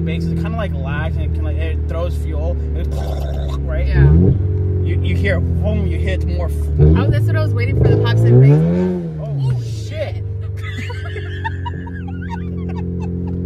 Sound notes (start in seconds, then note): 2.9 imitates fuel barbling; 4.2 engine revving; 8.7 engine revving; 10.4 both laughs